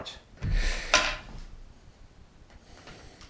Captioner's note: sound of plastic dropping on the table